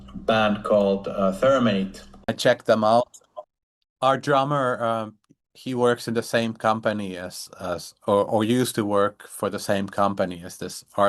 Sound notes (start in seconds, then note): none